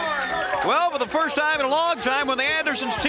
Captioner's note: crowd cheering